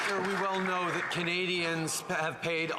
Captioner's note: applause